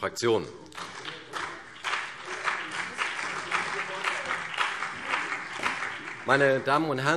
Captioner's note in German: Beifall CDU und BÜNDNIS 90/DIE GRÜNEN